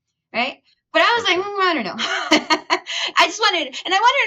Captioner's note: chuckles